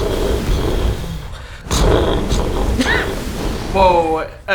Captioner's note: steam explosions; more steam explosions